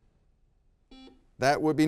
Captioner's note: buzzer beeps